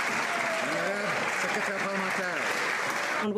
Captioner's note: some Applause